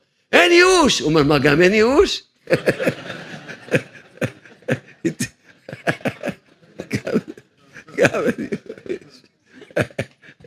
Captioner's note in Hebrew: צחוק